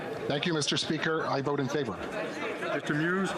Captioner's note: speaking French